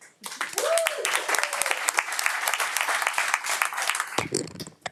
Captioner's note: audience applauding